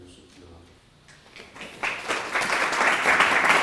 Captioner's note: applause